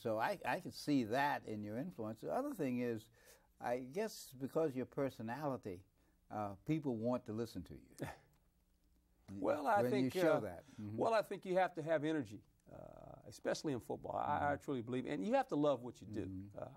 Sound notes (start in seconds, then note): 8.0 Herman laughs